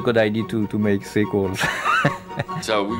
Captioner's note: laughs